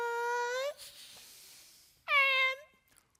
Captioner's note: group exhaling